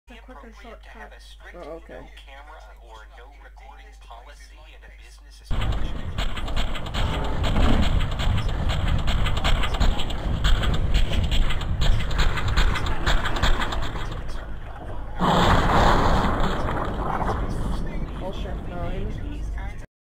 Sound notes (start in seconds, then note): 5.5 M4A1-S firing; 15.1 AWP shot